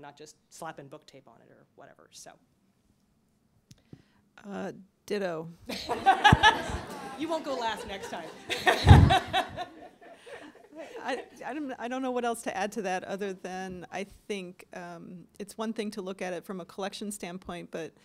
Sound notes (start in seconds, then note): 5.7 laughter; 10.4 laughs